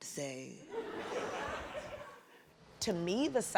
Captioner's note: audience laughing